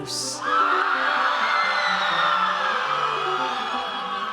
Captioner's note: audience cheers